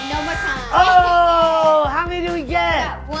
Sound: buzzer

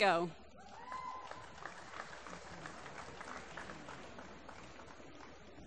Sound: applause

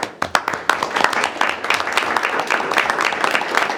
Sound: group applauding

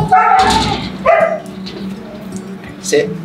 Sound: Astro barking

